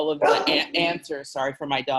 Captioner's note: dog barking